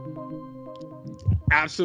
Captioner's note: mysterious instrumental; mic thumps